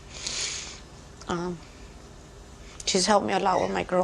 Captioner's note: sniffling